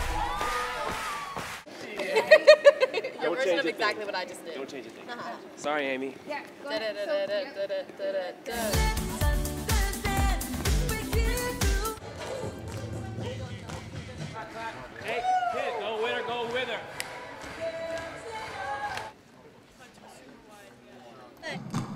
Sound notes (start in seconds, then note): 0.0 cheering; 1.9 laughs; 6.7 vocalizing dance steps; 9.3 dance music